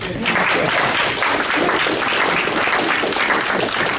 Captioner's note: audience applauds